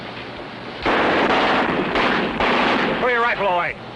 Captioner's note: tommy gun firing